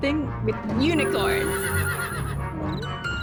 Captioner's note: neighing